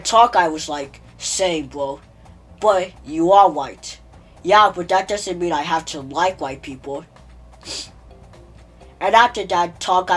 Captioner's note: nose sniff